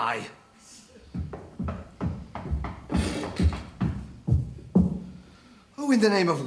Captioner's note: More knocking as George trudges downstairs - with the usual creak